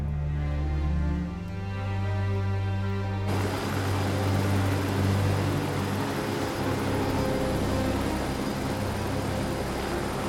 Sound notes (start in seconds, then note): 3.2 helicopter whirring